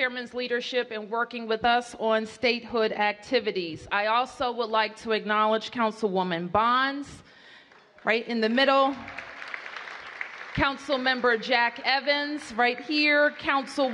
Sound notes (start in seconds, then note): 8.8 applause